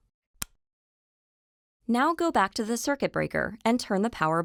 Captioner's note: click